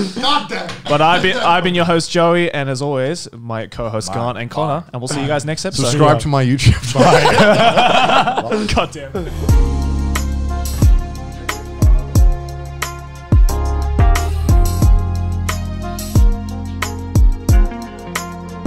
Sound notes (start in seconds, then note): 6.8 laughing; 8.9 upbeat music